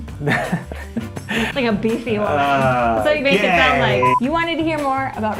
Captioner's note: laughter